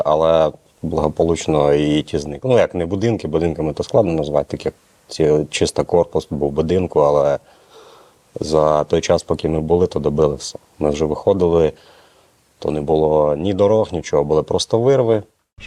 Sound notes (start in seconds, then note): none